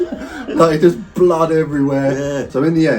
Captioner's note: laughing